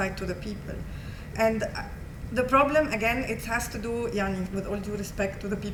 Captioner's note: non-english